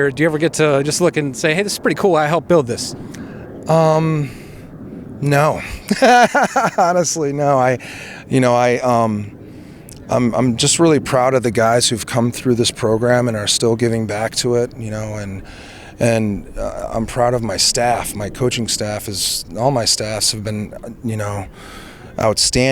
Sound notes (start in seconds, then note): 8.3 laughs